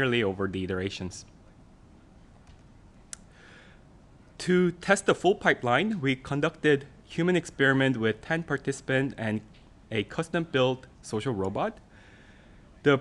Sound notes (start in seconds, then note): none